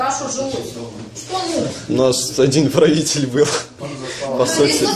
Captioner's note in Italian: ridendo